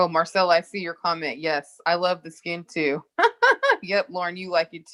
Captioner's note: laughs